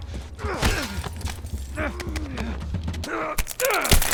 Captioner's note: grunting